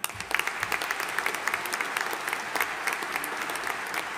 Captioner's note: audience applauding